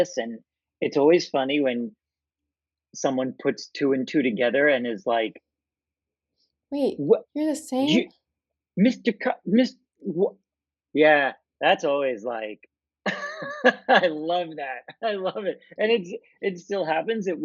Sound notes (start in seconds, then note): 8.1 stammering; 13.0 laughter